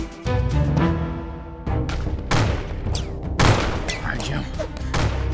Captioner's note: gunshots